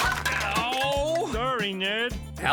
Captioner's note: groans